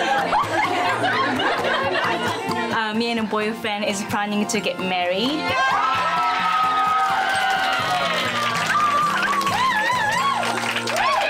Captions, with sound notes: - Me and boyfriend is planning to get married. (women cheer) (peppy music)